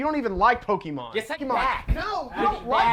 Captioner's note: arguing